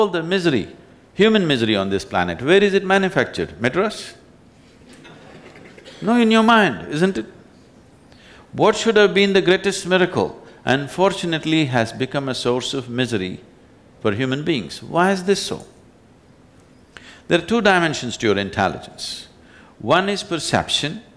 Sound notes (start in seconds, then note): 4.9 laughter